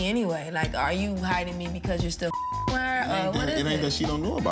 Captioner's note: beep